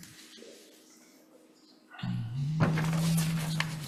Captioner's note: paper rustling